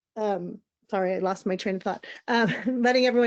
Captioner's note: chuckles